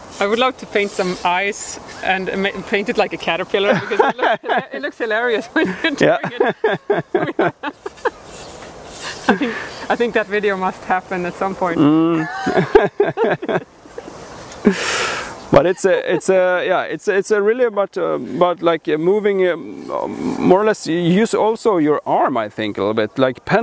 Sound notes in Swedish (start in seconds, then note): 11.9 skrattar